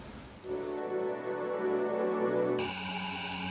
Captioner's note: deep ambient sound